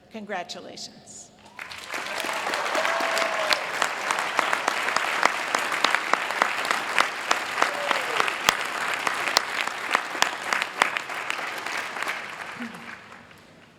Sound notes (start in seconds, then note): 1.0 applause